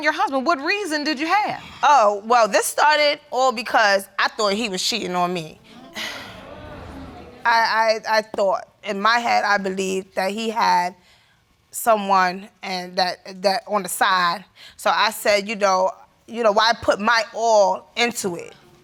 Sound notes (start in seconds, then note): 5.6 audience groans; 7.1 stammers